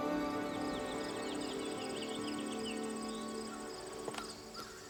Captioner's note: birds chirping